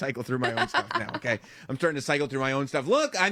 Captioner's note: laugh